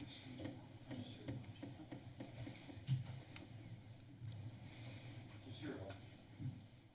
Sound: foot steps

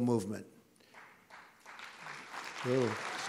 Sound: applause

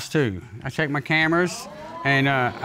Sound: audience exclaiming

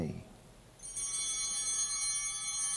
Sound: altar bell chiming

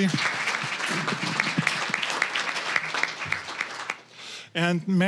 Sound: applause

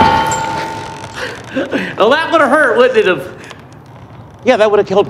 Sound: chuckles

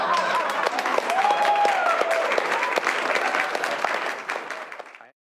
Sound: audience laughter; clapping

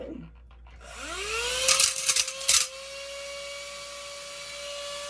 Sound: dryer whirring and grinding

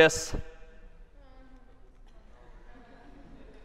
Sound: laughter

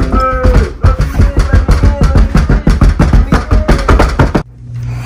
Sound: banging on door

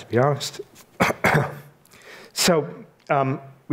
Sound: clears throat

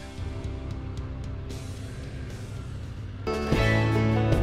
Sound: motorcycles rumbling; lively music

